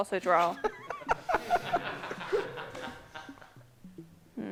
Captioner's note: laughter